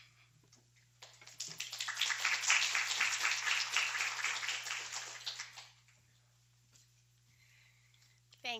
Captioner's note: applause